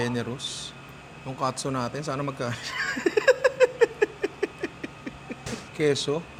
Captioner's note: laughs